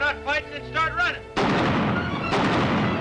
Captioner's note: gunshots